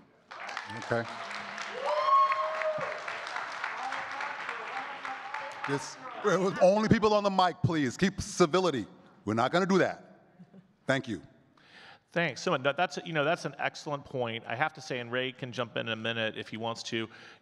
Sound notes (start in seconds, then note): 0.0 audience clapping and cheering; 4.1 audience member clamoring